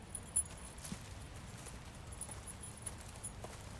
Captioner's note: leash jingles